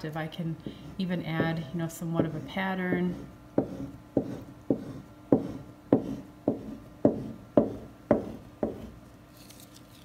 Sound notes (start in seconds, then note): 3.4 wood scraping canvas